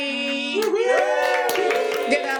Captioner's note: cheers and applause